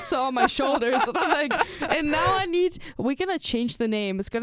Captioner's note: laughs